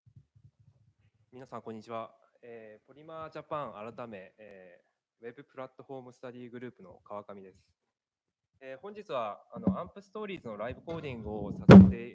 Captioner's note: speaking japanese